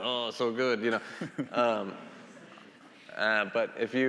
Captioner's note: laughing